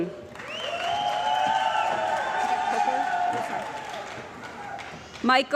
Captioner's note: cheering & Applause